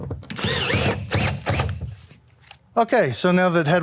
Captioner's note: tool whirring